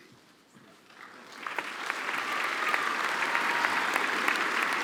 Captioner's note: applause